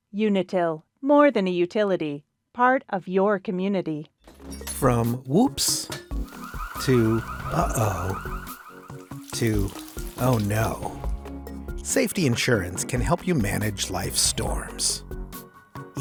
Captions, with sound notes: Unitil, more than a utility, part of your community. (glass shattering) - From whoops (timer ringing) to uh-oh, to oh no, (water dripping) Safety Insurance can help you manage life's storms,